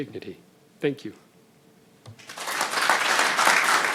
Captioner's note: applause